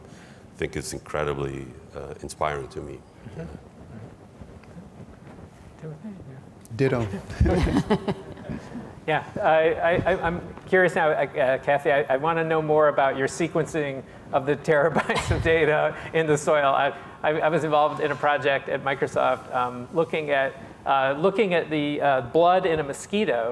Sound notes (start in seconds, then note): 7.0 chuckles